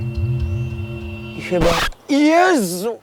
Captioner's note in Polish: odgłos uszkodzonej taśmy dźwiękowej